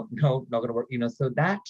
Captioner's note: laughs